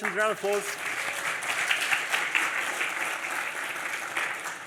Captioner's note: applause